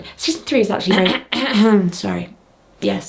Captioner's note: character clears throat